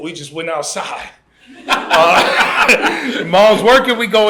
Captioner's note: laughter